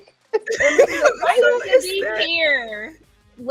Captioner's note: laughing